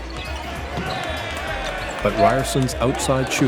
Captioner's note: game hubbub